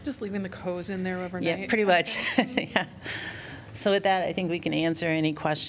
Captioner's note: laughter